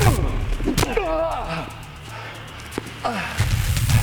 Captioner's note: Shepherd groans